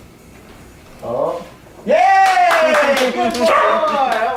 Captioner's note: hands clapping